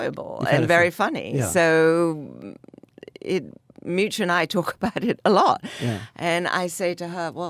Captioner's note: laughs